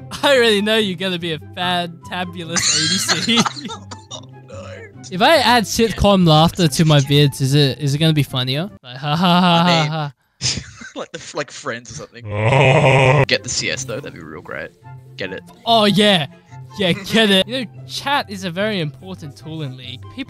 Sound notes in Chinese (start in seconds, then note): 2.6 笑喷xd